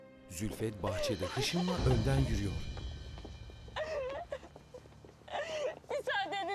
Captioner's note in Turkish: Firuze ağlama sesi